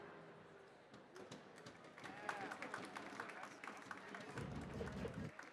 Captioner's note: audience applauding